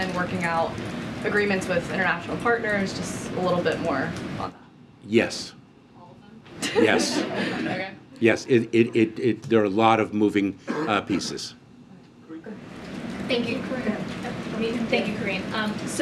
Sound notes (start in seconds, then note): 6.6 laughter